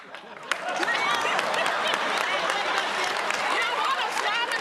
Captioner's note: laughter, applause